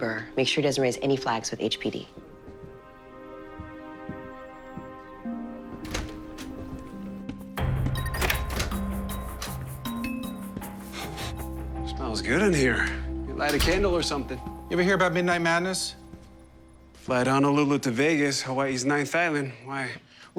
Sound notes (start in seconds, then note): 7.5 door beeps; 10.6 sniffing